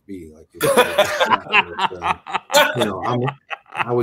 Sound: laughs

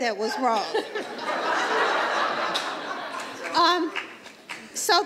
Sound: audience laughs

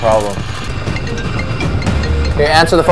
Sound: ringtone

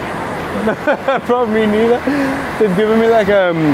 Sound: laughs

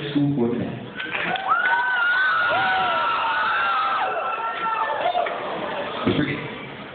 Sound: cheering

